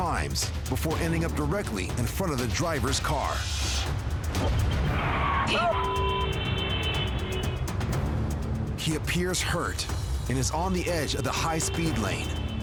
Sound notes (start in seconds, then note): 4.4 tires screech; 5.6 vehicles honking